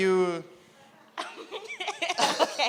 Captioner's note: both laugh